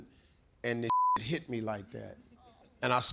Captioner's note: beep